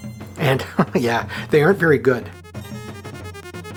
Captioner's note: chuckles